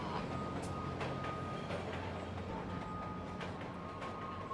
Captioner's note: train rumbles